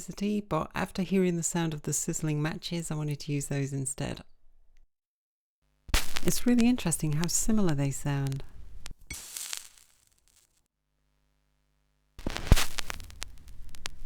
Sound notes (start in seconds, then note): 5.9 record crackles; 8.8 match sizzles as it hits the plate and goes out; 12.1 record crackles and the sound of the needle being placed on the record